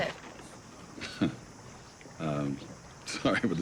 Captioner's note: laughing